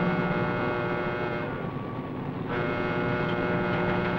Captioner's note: alarm blaring